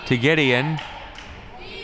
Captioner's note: claps